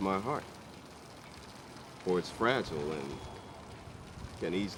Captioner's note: none